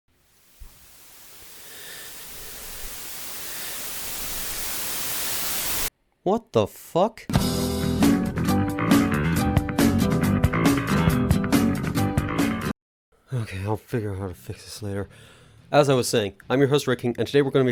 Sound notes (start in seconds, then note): 0.2 TV Static